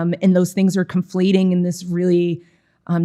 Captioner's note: none